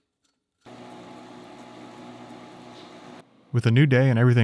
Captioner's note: machine motor hums